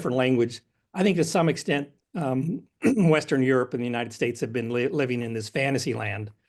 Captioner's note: cough